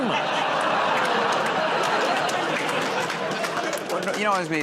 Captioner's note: laughter, groaning